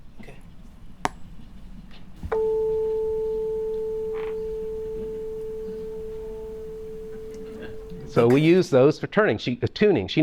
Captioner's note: tuning fork sound